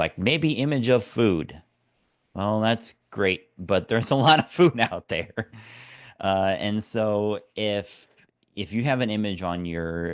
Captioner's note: laugh